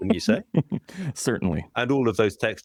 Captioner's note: laughter